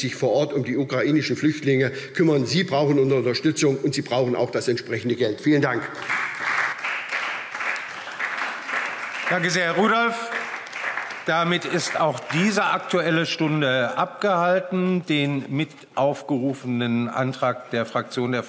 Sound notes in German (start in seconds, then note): 5.6 Beifall SPD und vereinzelt Freie Demokraten